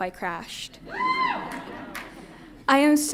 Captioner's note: audience cheers and laughs